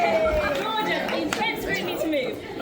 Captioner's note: audience cheering